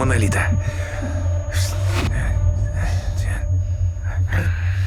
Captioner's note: whisper